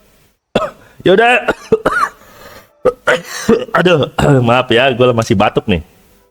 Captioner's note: cough